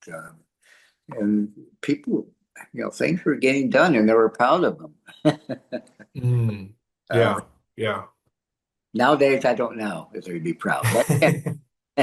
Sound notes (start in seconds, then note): 6.2 laughs